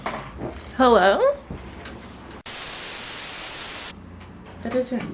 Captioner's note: static